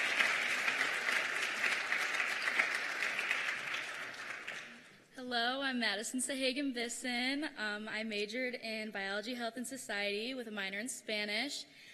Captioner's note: cheers and applause